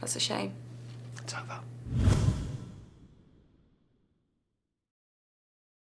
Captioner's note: whispering